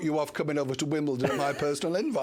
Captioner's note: laughter